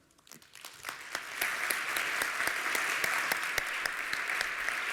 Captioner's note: applause